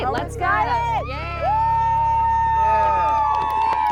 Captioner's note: cheering